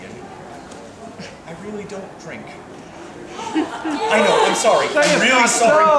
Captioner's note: gasps from audience